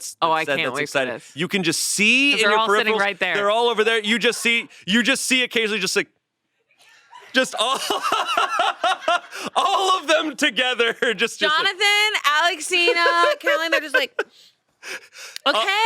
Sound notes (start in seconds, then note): 6.8 laughs